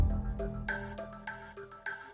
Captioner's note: bell rings; intense music